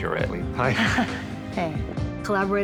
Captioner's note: soft chuckle